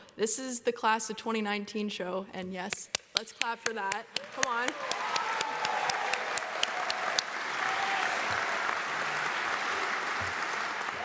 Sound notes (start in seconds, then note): 4.1 audience applauds; 4.2 audience cheers